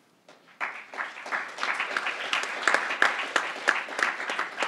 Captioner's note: crowd applauding